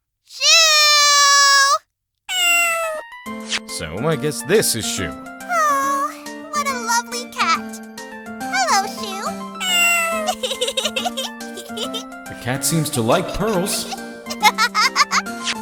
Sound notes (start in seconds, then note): 9.6 giggling; 14.2 Pearl giggling